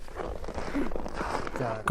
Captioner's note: boy's English Voiceover